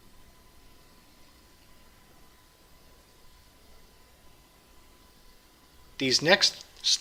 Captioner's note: pause